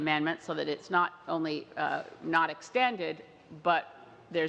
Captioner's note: speaking french